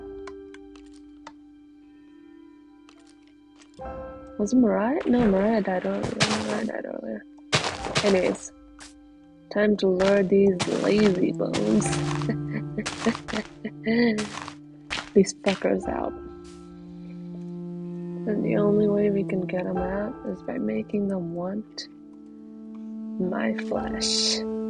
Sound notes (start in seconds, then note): 12.3 laughs